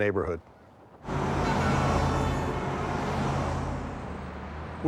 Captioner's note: traffic noises